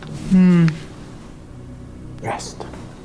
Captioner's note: victim moans